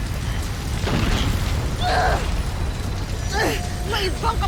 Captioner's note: powerful whoosh-crackle; growls; grunts